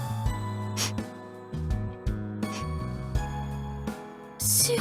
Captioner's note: sniffle